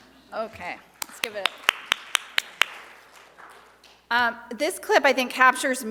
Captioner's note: audience applauds